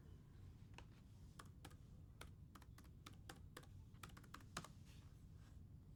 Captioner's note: laptop keyboard clicking